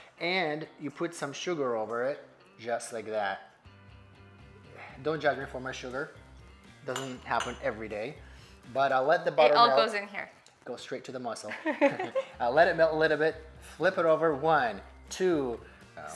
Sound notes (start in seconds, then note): 11.6 laughs